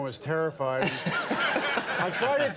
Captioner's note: audience laughing